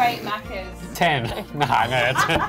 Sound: laughing; all laughing

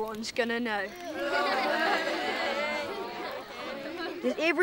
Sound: crowd laughing

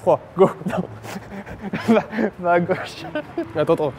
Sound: laughing

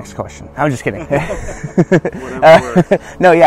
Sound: laughing

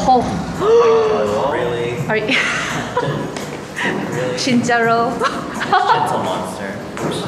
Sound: gasp

